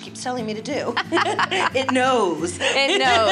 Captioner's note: laughs